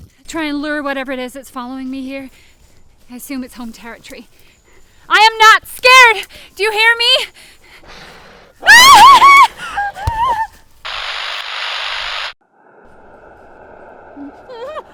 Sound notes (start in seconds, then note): 7.9 gasping; 8.6 Sarah screams; 10.9 camera buzzing